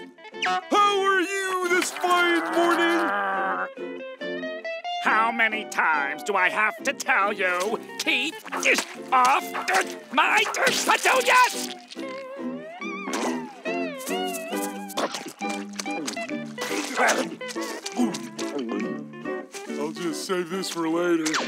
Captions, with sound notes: How are you this fine morning? [growling] How many times do I have to tell you? Keep... off... my... petunias! I'll just save this for later.